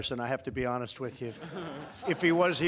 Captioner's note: laughter